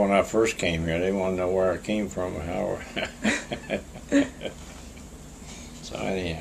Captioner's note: laughter